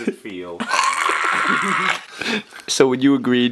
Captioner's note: choking noises